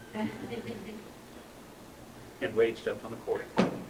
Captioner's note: laughter